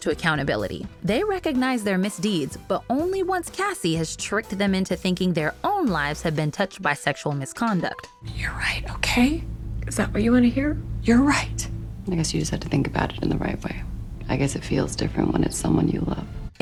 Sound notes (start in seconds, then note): 7.7 whispers